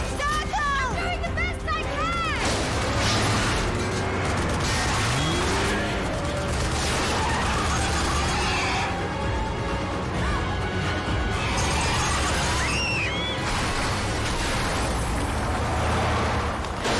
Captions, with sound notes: - You're driving in circles! - I'm doing the best I can! (GUNFIRE CONTINUES) - (FIRES GUN) - (ELLIE AND ROBYN SCREAM)